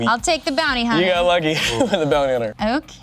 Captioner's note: laughs